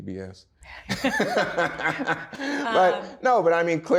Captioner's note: both laugh